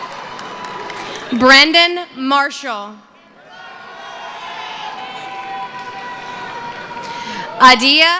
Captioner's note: cheering